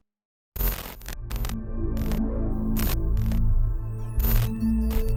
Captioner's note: electronic static